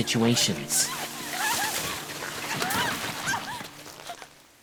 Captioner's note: screams, gasping